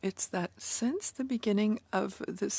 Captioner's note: speaking in French